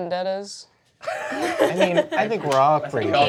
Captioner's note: cast laughing